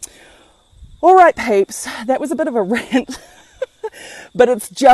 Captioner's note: laughs